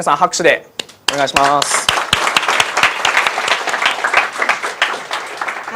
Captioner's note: applause